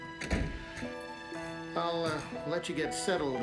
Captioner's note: door clicking